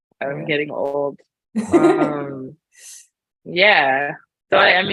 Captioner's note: laughs